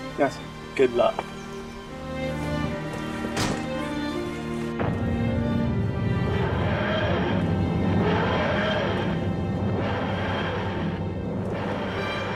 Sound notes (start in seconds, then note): 2.8 door closing sound; 3.1 whooshing